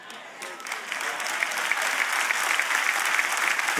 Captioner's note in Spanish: Aplausos